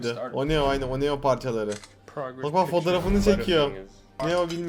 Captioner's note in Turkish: deklanşör sesi